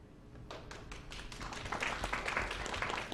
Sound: clapping

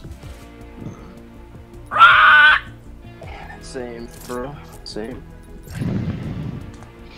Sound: pterodactyl screech; burp; deep inhale

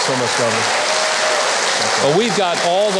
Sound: audience applauding

